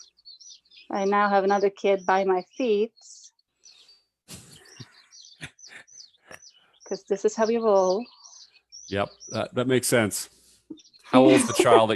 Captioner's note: chuckles